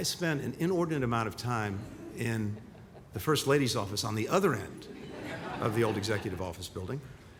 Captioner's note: laughter